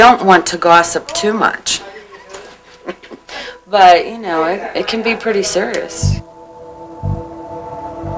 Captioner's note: laughter